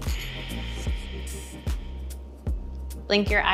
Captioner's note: exhaling